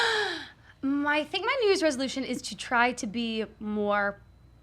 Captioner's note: gasps